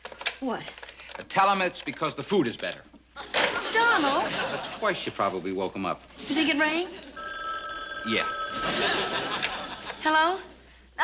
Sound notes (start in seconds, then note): 7.1 phone ringing